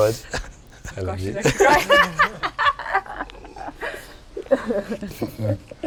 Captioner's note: laughs